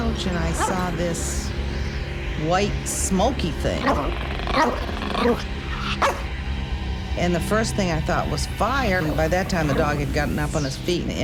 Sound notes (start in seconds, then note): 3.6 growling and barking